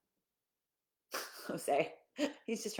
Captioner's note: chuckling